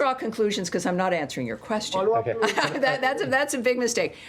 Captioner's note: laughter